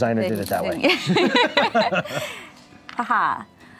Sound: laughing

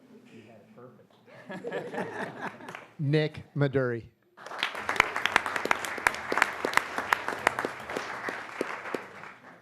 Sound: applause

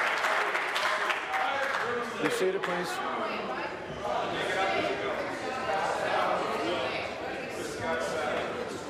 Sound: applause

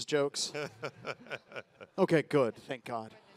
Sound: panelist laughs

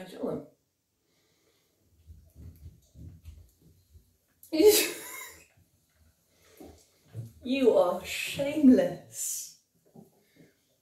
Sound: laughs

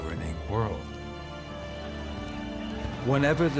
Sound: crowd clamoring

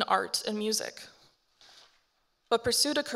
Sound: paper rustling

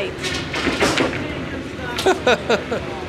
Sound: laughing

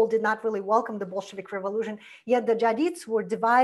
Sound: foreign language

